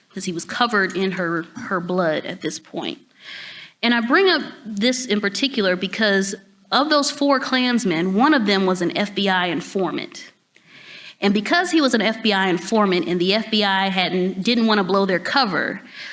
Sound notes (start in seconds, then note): none